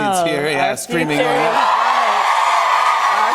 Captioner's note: cheers and applause